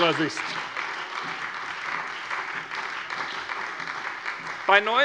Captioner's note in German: Beifall bei der SPD